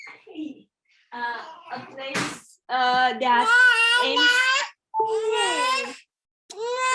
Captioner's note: baby crying